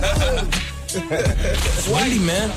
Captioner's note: laughing